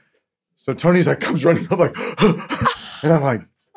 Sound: panting

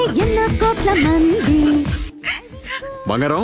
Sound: background: Crying

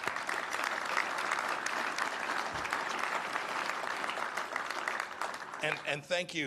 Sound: applause

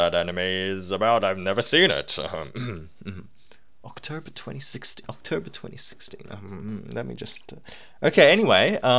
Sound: cough

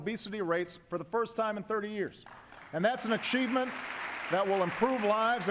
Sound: applause

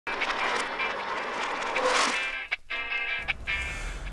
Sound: garage door clanging; bright music

